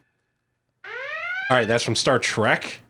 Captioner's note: alarm sounding